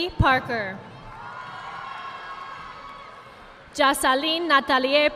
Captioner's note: audience applauding